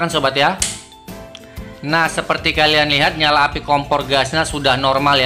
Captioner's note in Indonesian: Suara tombol kompor gas